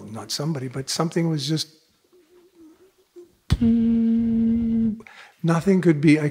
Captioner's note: makes humming sound